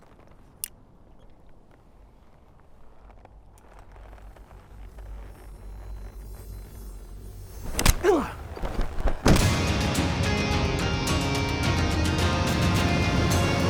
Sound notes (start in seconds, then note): 0.6 gun clicks; 7.6 Zeke falls; 7.6 gun thuds